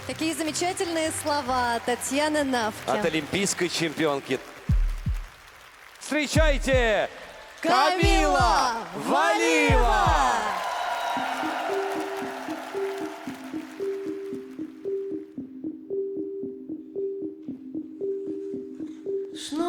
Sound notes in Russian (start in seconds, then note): 11.6 ликование